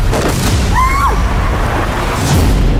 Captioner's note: scream